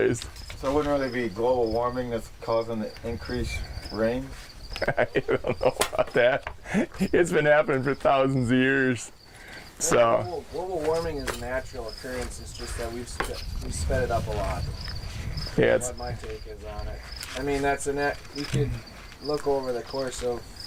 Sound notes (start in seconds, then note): 4.6 laughing